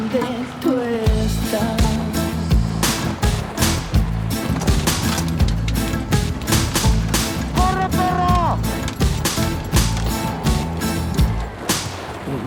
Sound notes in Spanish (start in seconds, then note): 0.2 Disparos de las balas de pintura; 5.5 Bocinazos